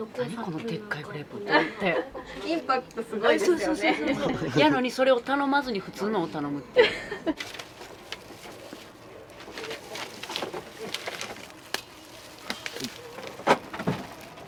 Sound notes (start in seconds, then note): 6.8 laughs